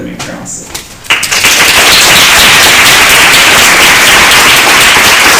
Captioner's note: applause